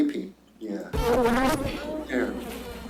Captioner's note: bees buzzing